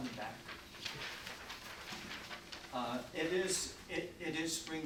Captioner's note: paper flipping